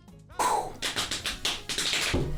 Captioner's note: exhales; thumps on thighs